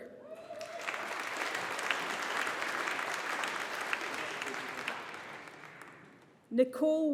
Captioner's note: audience applauding